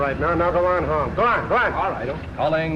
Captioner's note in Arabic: على الراديو